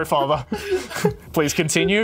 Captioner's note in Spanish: ríe